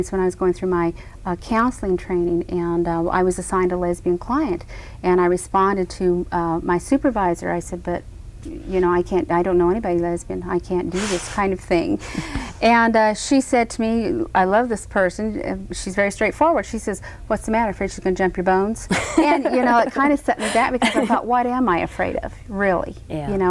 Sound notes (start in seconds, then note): 12.0 Cruz laughs breathily; 18.9 Cruz laughs